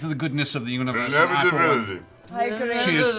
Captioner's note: slurred